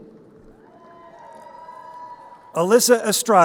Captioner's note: crowd cheering